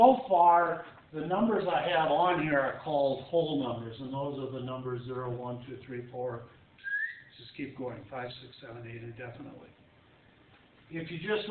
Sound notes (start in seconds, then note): 6.8 whistles